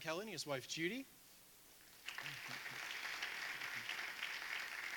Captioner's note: audience applauding